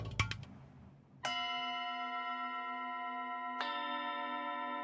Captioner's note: bells ringing